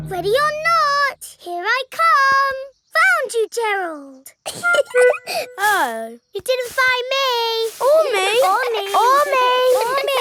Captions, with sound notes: Ready or not, here I come! Found you, Gerald! (GIGGLING) Oh. You didn't find me! -Or me. -Or me. -Or me. -Or me.